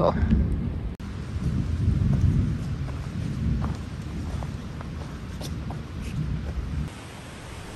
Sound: light rumble and sound of walking

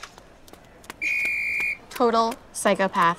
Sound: whistle blows

